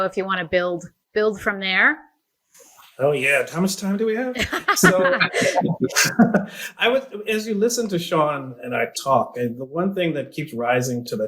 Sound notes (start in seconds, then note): 4.3 both laugh